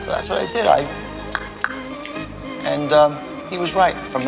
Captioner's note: click click